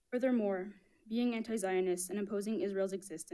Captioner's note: none